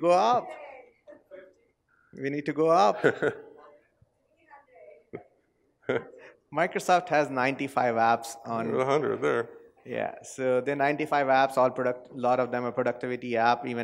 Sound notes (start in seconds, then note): 4.6 laugh